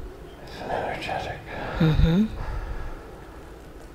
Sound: mm..hmm

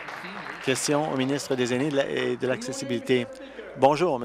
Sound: applause

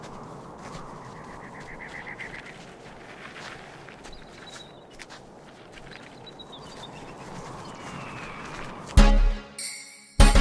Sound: wind whistling; birds chirping; eagle screeching

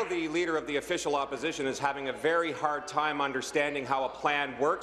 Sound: applause

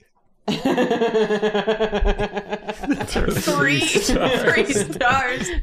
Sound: laughter

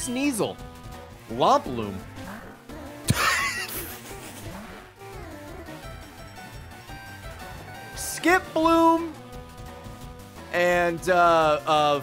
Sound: laughs

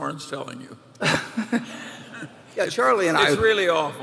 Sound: laughter

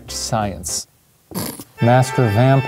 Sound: snorts

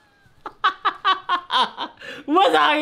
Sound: laughing

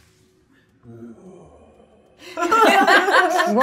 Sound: groaning pathetically; laughing

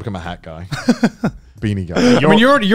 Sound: laughs

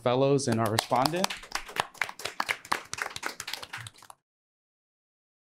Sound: audience applauds

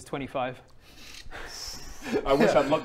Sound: winces

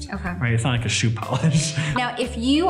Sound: laughs

